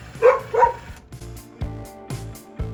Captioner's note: Camper barks; upbeat music continues